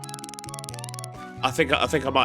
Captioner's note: game Sounds